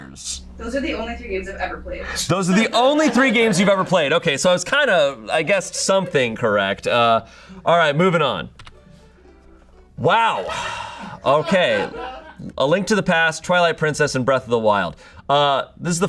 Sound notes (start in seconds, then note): 10.3 sighs; 10.3 audience laughing